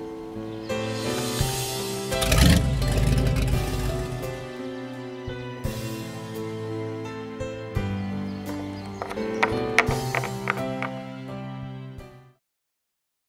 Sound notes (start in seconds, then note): 1.1 car starts